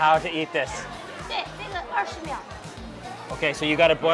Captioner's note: woman speaks in a foreign language